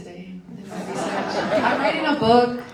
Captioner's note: audience laughs